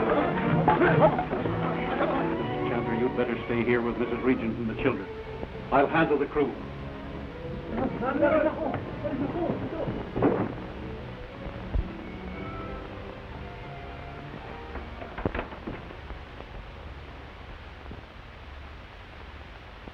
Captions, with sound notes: Chandler, you'd better stay here with Mrs. Regent and the children. I'll handle the crew. (sailors chatter) (door closes)